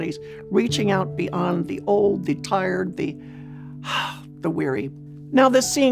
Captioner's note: sighs